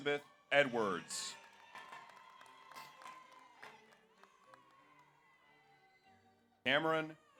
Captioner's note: audience cheers; audience applauds